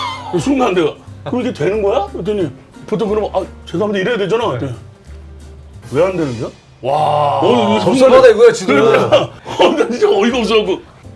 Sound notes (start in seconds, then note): 5.0 swoosh